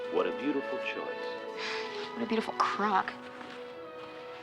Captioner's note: sighs